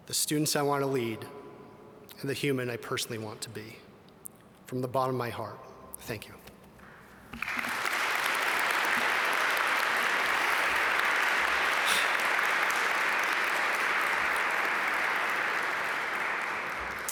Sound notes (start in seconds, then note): 7.3 audience applaud